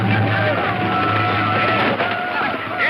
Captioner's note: gunshot